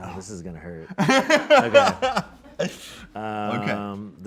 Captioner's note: laughs